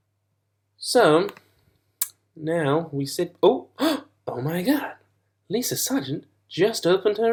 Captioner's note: gasps